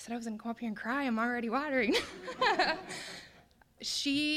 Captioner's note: all laughing